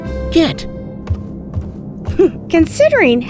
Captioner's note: footsteps receding